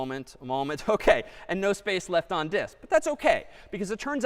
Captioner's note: chuckles